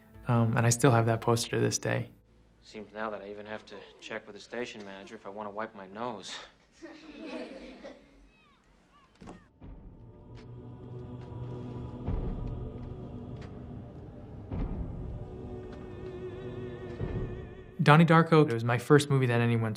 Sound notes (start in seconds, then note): 6.7 children laughing; 9.6 dramatic music